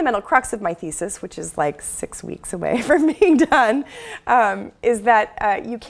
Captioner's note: laugh